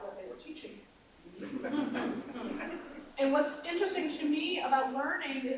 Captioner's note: laughter